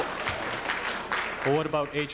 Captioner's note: applause